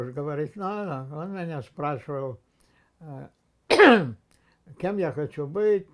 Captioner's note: clears throat